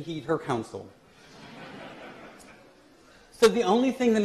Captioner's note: laughter